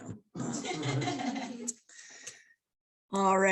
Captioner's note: laughter